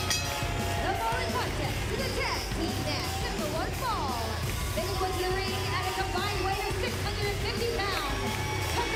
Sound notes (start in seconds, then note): 0.0 bell ringing